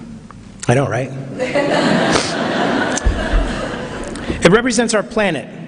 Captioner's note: laughter